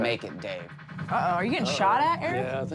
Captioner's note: tapping noise